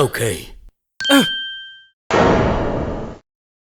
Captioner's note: surprised grunt